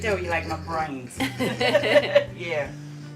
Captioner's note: laughs